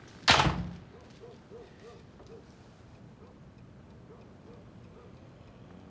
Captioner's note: dog barking in distance